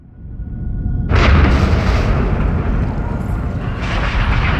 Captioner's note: thunder rumbling